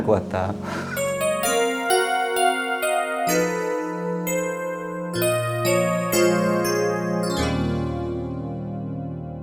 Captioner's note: sounds like tears